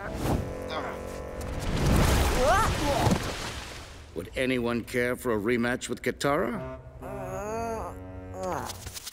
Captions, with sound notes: Would anyone care for a rematch with Katara? [groaning]